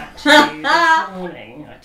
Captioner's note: laughs